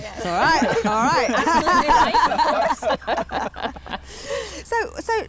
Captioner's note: laughter